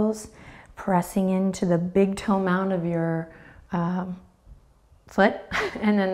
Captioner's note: chuckles